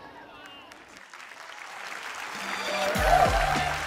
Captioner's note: applause; upbeat music